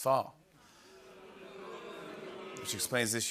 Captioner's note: audience oohs